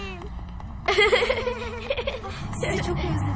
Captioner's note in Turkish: Gülüyorlar